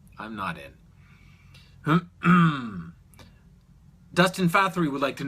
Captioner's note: clears throat